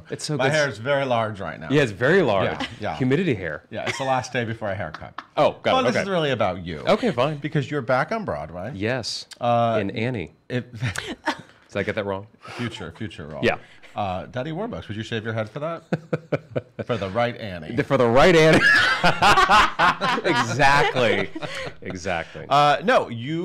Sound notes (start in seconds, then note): 10.7 hosts chuckling; 16.0 Erich laughs; 18.5 everyone laughs